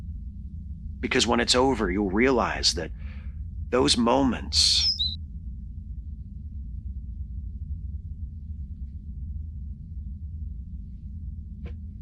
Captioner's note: tweeting sound